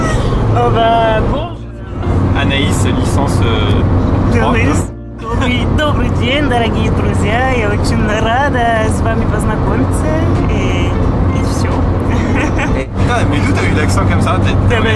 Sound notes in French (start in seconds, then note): 5.1 parle russe mais on comprend rien